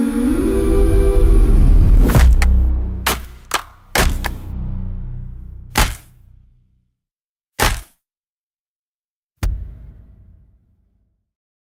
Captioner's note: sound of a heavy power generator winding down